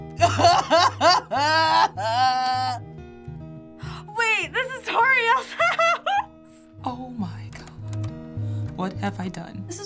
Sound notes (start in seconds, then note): 0.2 feigned sobbing; 3.9 gasping